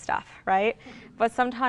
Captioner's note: laughs